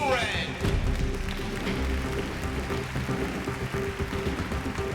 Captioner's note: applause